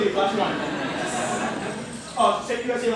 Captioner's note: laughter